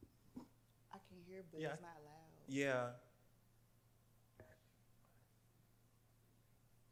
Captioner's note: none